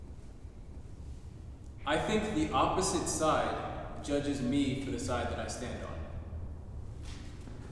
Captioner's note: offscreen voice